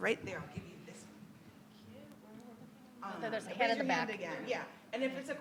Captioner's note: people chattering distantly